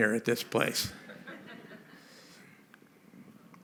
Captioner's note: laughter